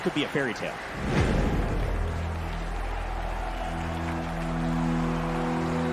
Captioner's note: crowd cheering